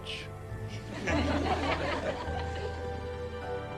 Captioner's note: audience laughs